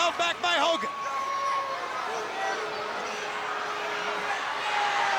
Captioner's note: crowd cheering